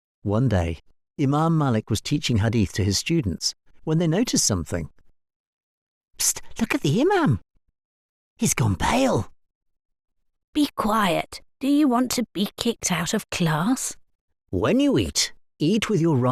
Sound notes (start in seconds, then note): 8.3 urgent whisper; 11.3 whisper